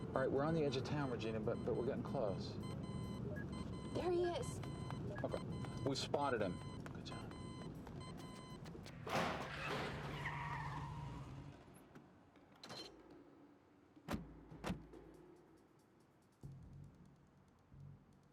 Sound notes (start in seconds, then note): 8.8 tires screeching; 13.1 tense music